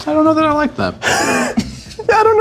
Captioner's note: laughs